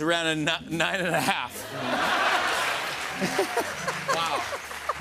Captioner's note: laughter and applause; laughing